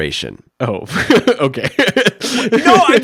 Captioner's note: laughs